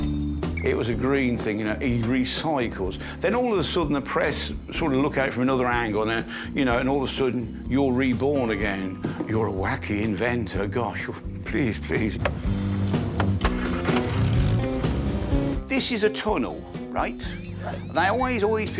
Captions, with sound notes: It was a green thing, you know, he recycles. Then all of sudden the press sort of look at it from another angle and all of a sudden you're reborn again, you're a wacky inventor. Gosh, please, please. (flicking switches) (motor starting) This is a tunnel, right? There's always that bit where we can't see a light